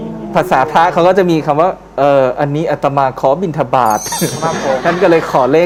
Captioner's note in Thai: เสียงหัวเราะ